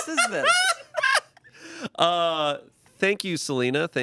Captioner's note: everyone laughs